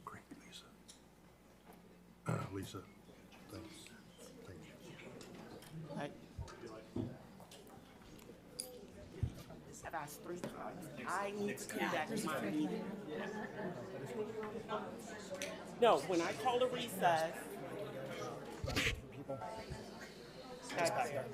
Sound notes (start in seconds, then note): 12.5 speaks faintly; 17.6 everyone speaking faintly